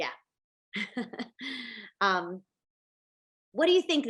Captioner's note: laughs